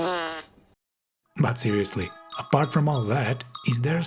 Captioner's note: fart Noise